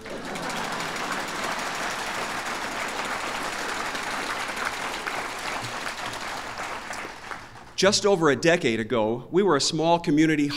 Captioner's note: applause